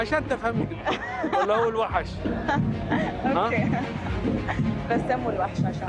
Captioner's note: laughs